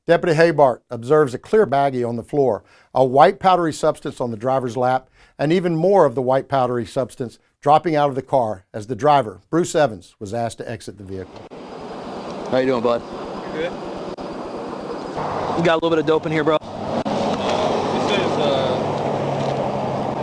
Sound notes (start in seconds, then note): 14.4 vehicles roaring